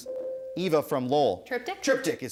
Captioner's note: ding